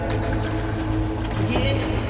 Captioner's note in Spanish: Vertiendo liquido